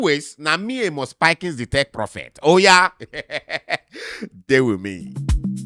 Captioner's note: laughs